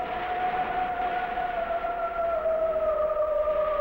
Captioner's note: siren wailing